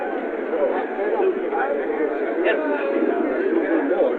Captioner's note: chatter